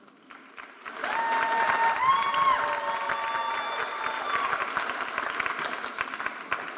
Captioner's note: audience cheering and applauding